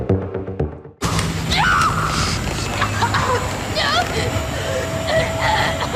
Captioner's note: Eleven screams and chokes